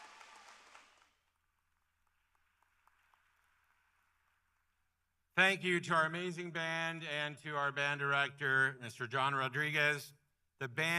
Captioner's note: applause